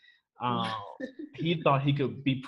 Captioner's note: chuckles